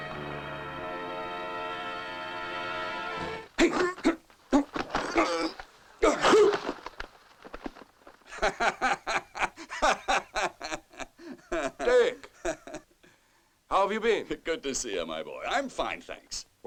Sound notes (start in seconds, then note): 4.5 grunting; 8.2 laughing